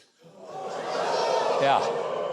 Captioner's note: audience groaning